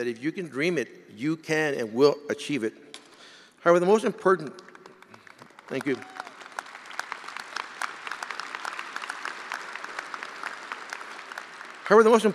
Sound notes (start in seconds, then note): 9.6 attendees applauding